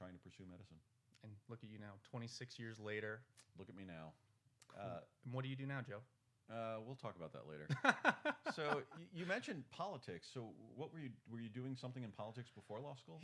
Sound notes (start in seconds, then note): 7.7 laughs